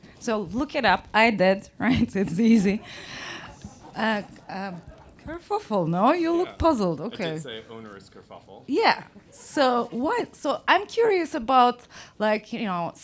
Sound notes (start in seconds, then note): 2.2 crowd laughs